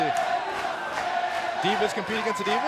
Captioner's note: fans chanting